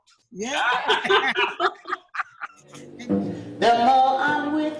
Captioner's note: laughs